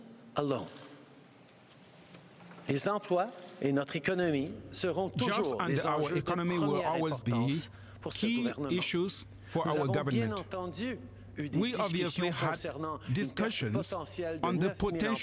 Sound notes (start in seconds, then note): 6.1 speaking french